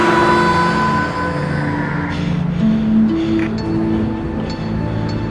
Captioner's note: siren blaring